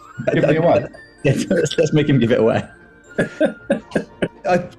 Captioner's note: chuckling